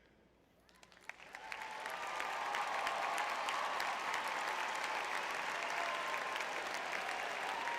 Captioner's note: audience cheering; applause